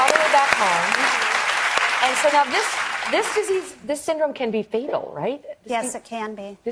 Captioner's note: applause